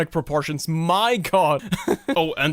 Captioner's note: laughs